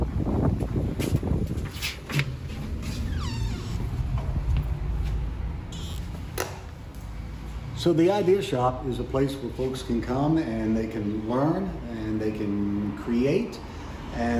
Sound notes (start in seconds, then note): 1.8 door creaks